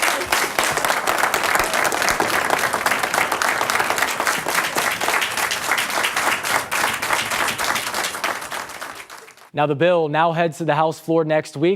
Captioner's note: applause